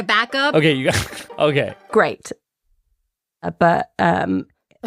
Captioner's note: laughs